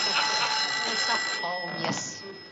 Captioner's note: phone ringing